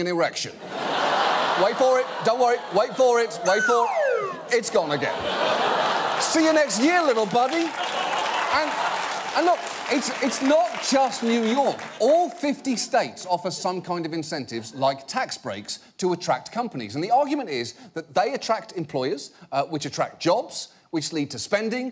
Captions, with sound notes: (AUDIENCE LAUGHING) Wait for it. Don't wor-- Wait for it... -(SLIDE WHISTLE DESCENDING) -It's gone again. -(AUDIENCE APPLAUDING) -See ya next year, little buddy. And look, it's not just New York. All 50 states offer some kind of incentives, like tax-breaks to attract companies, and the argument is, that they attract employers, which attract jobs, which lead to spending,